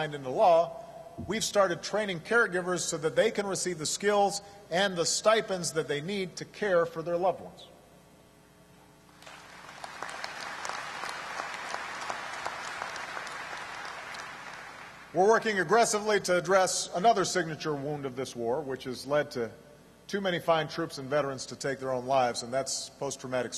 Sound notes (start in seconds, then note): 9.1 applause